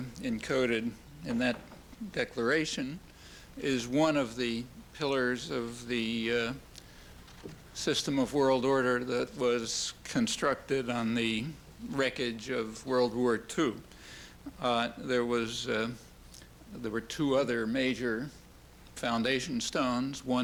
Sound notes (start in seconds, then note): none